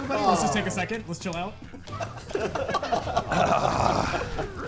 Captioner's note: players laughing